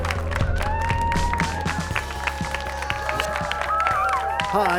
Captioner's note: cheers and applause